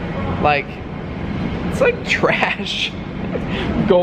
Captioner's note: laughing